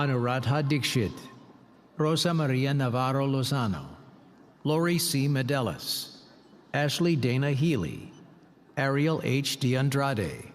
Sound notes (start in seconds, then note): none